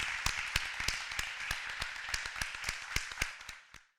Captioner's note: applause